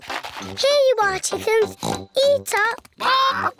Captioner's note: oinks